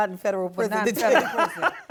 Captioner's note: laughter